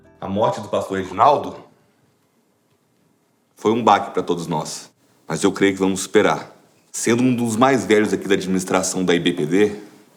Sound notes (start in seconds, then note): none